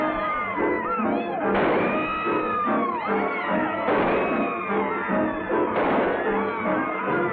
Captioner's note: gunshots